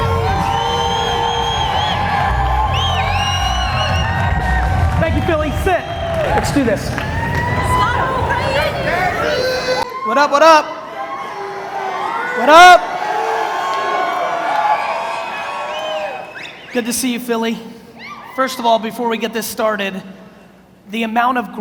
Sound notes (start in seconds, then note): 0.1 audience cheers; 8.7 audience murmurs; 12.8 audience cheers